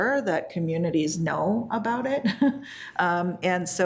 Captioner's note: laughs